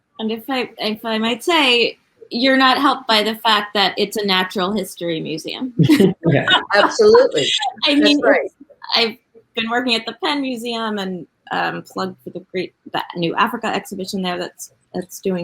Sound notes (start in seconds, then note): 5.7 people laughing